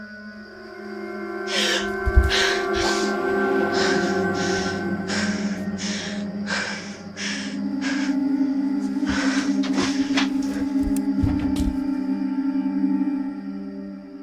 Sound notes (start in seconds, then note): 0.9 suspenseful music; 1.5 Ally gasps; 3.1 Ally panting